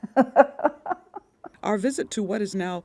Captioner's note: laughter